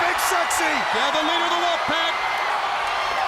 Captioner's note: crowd cheering